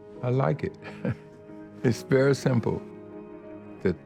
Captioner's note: laughs